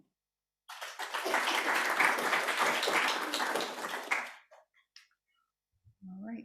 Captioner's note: applause